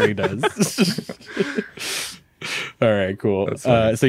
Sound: hosts laughing

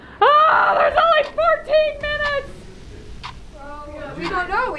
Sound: shouts despairingly

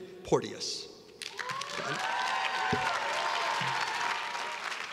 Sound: students cheering

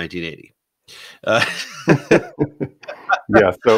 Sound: laughing

